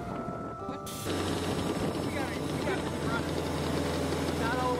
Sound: engine turns over

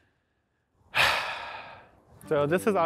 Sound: sighing

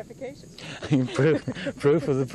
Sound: laughter

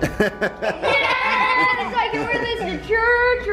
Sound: laughing

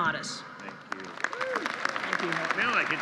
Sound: applause

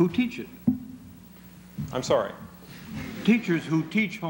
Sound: laughter

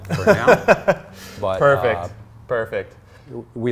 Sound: laughs

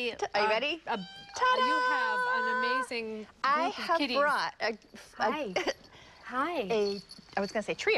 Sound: kitty meowing

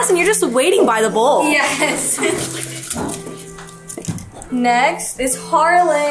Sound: giggles

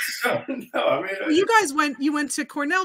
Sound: laughs

